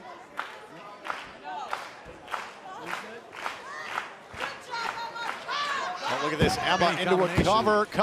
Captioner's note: clapping